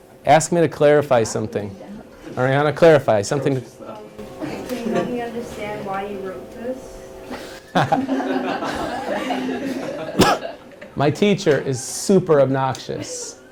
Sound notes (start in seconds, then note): 7.6 laughter